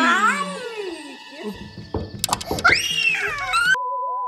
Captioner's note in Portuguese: Grito; Som de bater na madeira; Som de corte de vídeo